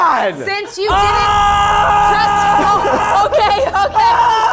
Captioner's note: yelling